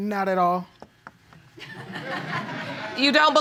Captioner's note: audience laughing